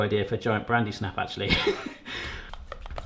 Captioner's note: laughs